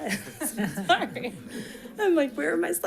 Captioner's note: chuckles; attendants laughing softly